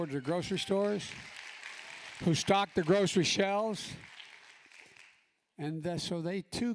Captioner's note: applause